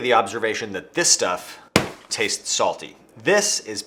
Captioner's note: bag thumping